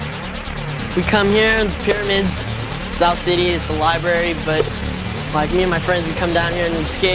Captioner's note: voiceover